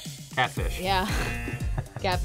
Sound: laughs; buzzer rings; buzzer

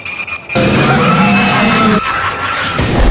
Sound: screaming

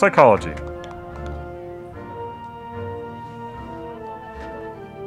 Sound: audience applauding

